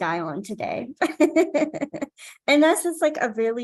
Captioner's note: laughing